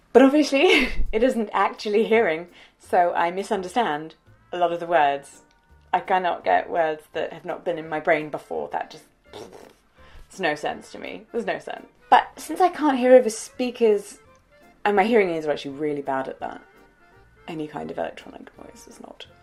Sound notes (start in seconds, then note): 9.2 blows rasperries